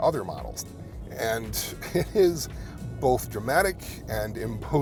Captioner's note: chuckling